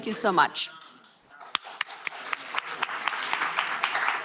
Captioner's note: applause